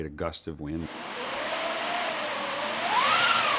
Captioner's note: sound of strong wind; sound of wind gusting